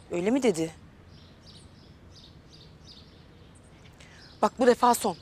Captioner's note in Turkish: Kuş sesleri